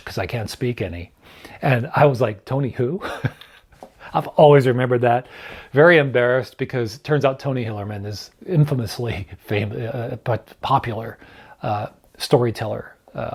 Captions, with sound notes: 'cause I can't speak any. And I was like, "Tony who?" (chuckles) I've always remembered that. Very embarrassed because it turns out Tony Hillerman is infamously, but popular storyteller, author